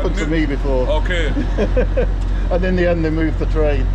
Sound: laughing

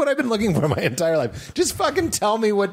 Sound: laughter

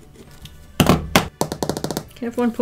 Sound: finger tapping

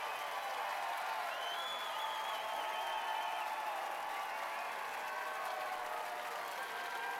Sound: cheers and applause

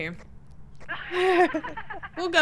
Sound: laugh

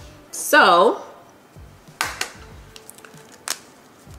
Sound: egg tapping

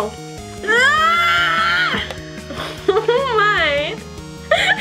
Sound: screams

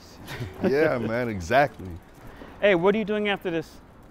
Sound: chuckling

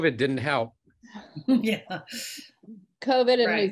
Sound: laughs

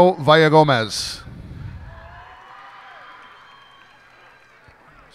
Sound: cheers and applause

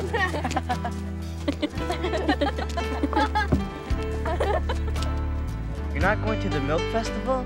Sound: laughs

